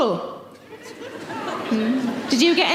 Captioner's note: audience laughing